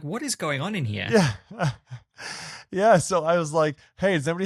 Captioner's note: chuckling